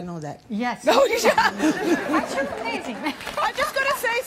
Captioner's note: audience laughing